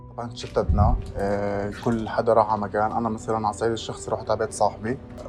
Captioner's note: speaking in foreign language